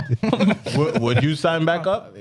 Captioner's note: laughing